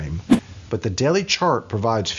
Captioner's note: whooshing